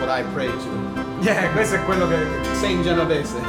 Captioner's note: speaking Italian